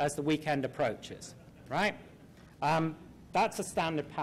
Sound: laughter

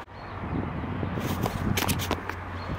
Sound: camera fumblin

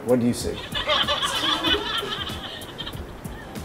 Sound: laughter

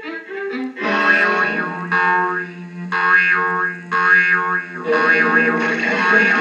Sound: boing Boing Boing

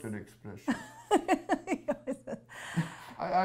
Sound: laughs

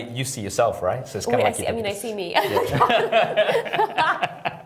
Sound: laughter

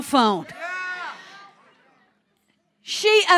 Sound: congregation cheering

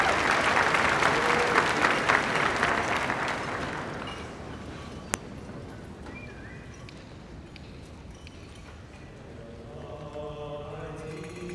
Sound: applause

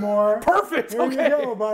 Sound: chuckles

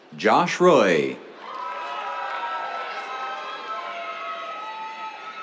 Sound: cheers, applause

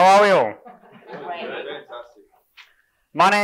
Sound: audience murmurs response

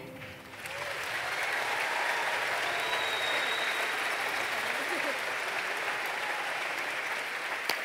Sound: applause

